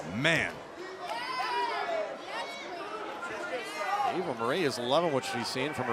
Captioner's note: crowd chatter